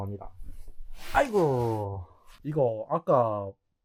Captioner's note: the old man sits down and makes a sound